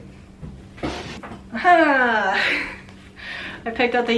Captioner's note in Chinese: 傻笑